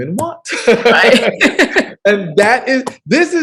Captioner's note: laughs